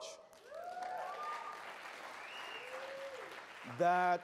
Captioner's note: audience cheers